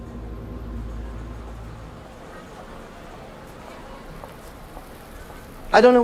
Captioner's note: street noise